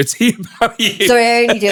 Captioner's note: laughing